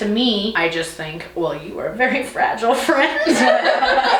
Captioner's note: laughter